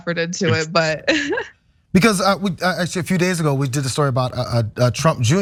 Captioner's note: laugh